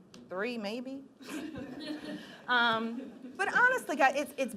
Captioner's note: laughing